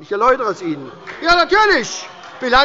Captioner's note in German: Beifall bei der SPD - Zuruf